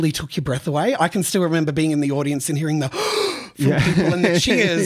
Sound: gasps

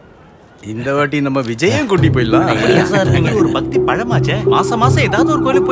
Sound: laughs

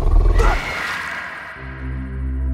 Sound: animal growls; screaming; light music

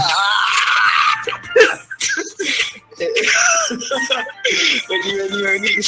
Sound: laughs and giggles

